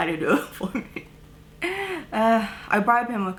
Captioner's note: laughter